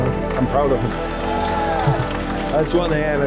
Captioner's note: crowd cheering